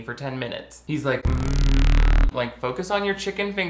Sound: strange electric buzz

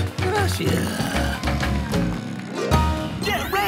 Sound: snoring

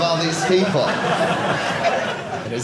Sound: audience laughing

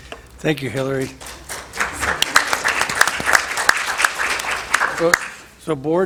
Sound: applause

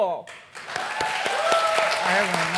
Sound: applause and cheers

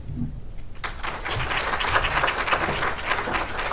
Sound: audience applauds

